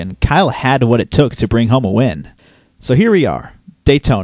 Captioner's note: none